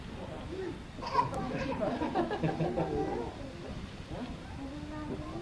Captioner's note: audience laughs